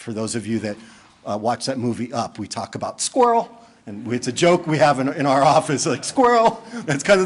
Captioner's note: laughter